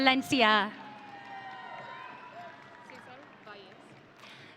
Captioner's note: audience cheering